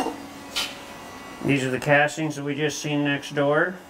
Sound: none

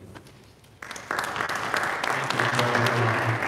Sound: audience applauding

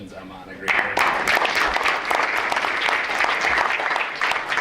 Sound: applause

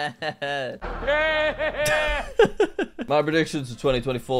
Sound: Voldemort laughs; laughs

